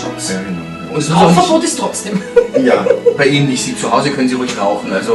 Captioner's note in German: lacht